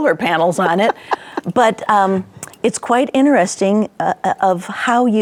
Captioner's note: laughing